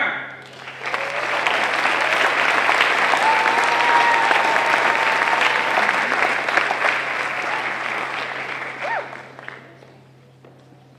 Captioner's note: applause